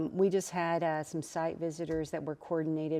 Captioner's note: none